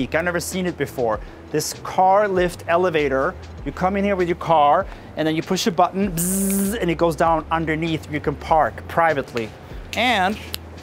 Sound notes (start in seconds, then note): 6.2 mimics button buzzing